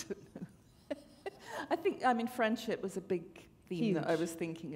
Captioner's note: chuckle